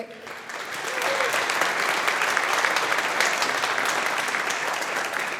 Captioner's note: audience applauding